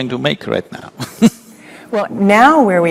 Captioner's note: laughs